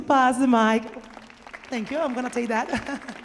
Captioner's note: audience applauding